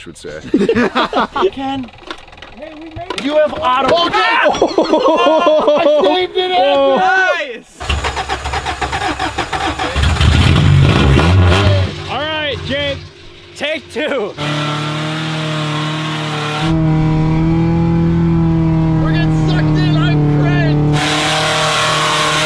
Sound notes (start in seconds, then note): 0.3 everyone laughs; 1.7 engine starts; 4.4 laughter; 4.6 everyone screams; 8.5 engine turns over